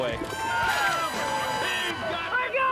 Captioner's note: crowd cheering